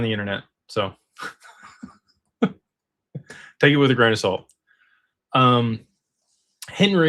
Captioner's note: laughter